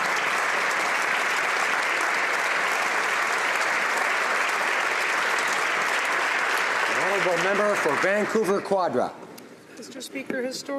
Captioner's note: some Applause